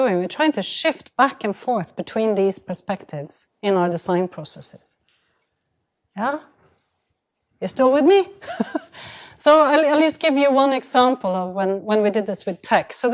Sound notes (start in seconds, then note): 8.4 chuckles